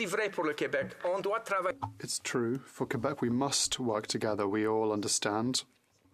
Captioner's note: speaking French